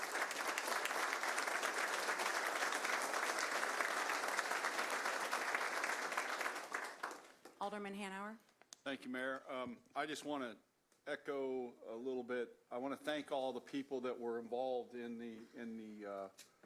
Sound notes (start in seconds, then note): 1.8 applause